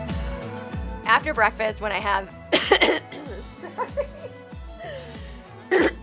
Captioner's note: coughs; laughs